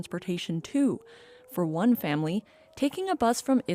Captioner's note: sirens